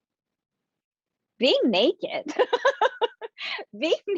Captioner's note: laughing